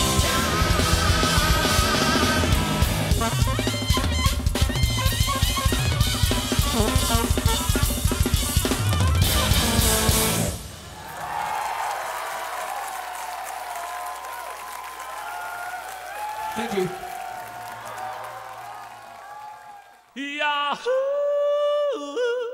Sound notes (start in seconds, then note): 3.3 upbeat clarinet music; 10.8 crowd cheering and applauding